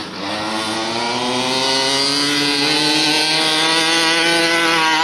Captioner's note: truck engine revving